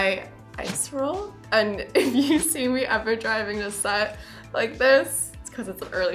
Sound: laughs

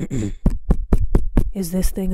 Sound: tapping microphone

